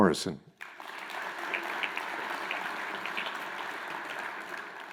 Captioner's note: crowd applauds